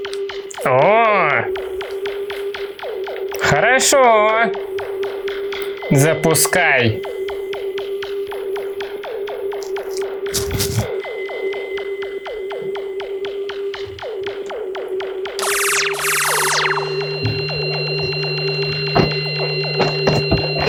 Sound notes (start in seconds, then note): 7.4 squeaks of opening a portal; 7.4 vibrations turning on the device